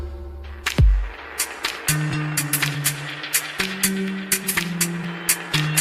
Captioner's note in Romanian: Aplauze